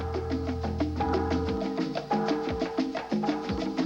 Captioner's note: bell ringing